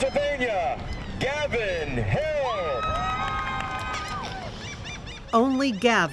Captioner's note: crowd cheers